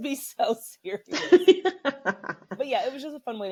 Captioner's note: laughter